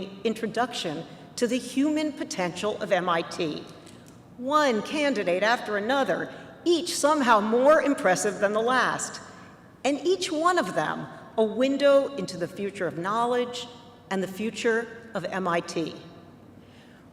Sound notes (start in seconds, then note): none